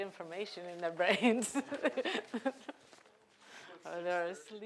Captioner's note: laughing